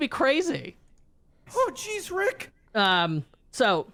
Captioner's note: cartoon Voice